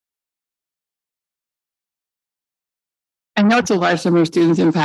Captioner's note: audio feedback and echoing